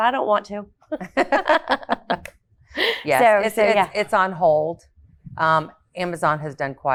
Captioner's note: women laughing